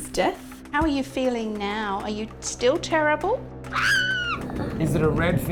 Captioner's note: squeals